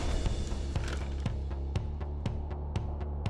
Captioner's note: crashing sound